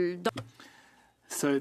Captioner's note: speaking French